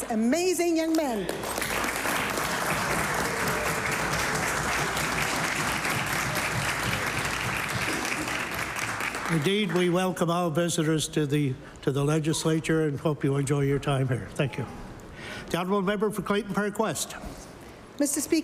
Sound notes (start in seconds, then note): 3.6 applause